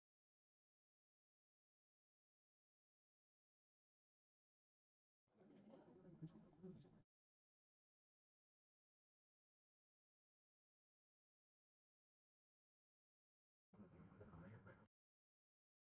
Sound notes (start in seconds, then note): 5.3 silence